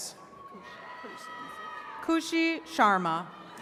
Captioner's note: attendees cheering